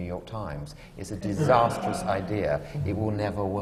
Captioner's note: laughter